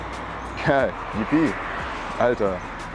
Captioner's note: happy noises